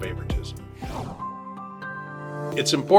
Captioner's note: screen whooshes; gentle upbeat music